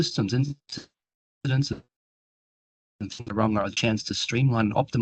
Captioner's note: audio dips